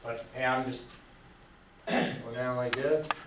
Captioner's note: clears throat